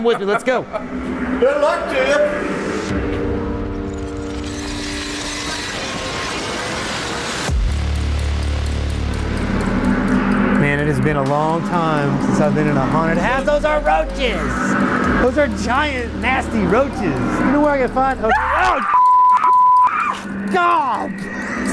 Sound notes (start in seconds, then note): 18.3 screams